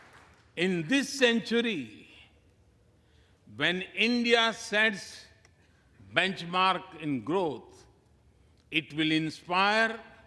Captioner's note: applause